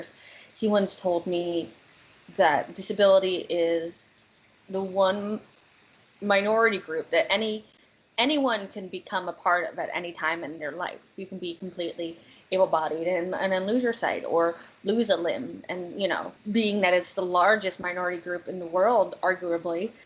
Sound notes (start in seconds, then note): none